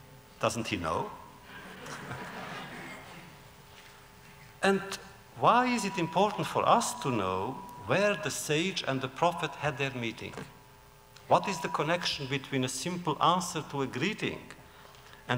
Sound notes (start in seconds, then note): 1.5 laughter